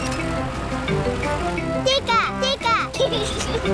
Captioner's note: giggles